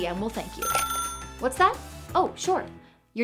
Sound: phone ringing

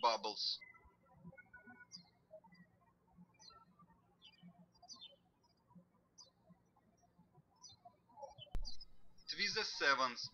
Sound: birds chirping

